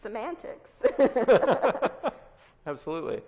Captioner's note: both laughs